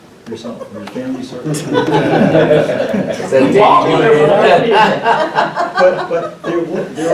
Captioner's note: laughter